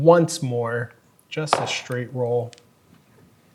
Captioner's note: dice rolling